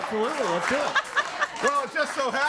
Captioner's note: laughs